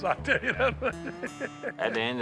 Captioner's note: laughing